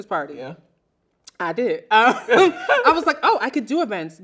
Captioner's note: laughing